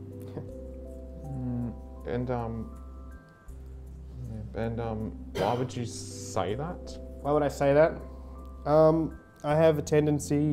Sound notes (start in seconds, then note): 0.1 chuckles; 5.3 faint coughing in background